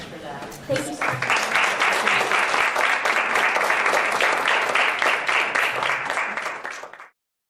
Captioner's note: applause